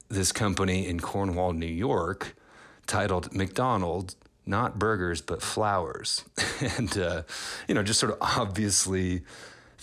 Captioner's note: laughter